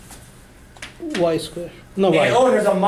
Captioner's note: voiceover